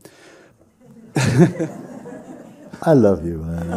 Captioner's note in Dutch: gelach